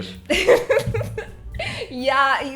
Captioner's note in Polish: śmiech